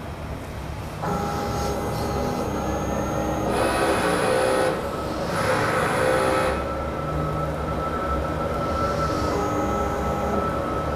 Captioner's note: printer machine noise